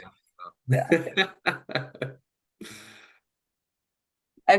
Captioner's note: laughs